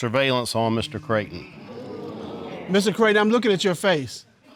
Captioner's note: audience exclaim